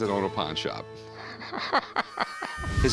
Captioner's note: laughs